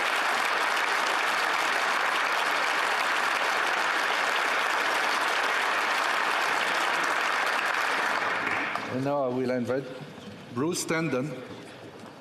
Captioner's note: cheering and Applause